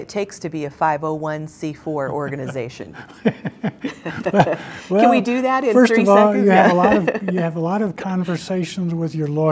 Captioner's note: laughter